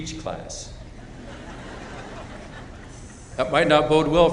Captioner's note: chuckling